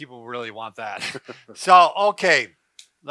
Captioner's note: soft chuckle